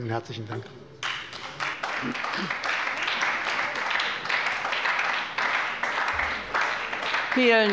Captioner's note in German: Beifall bei der SPD